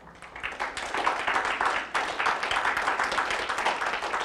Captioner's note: audience applauding